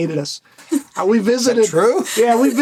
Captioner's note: laughs